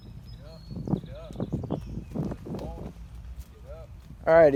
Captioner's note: birds singing